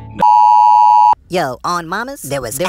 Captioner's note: beeping